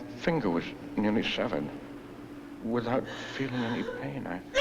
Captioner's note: she shouts